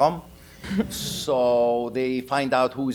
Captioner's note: audience laughing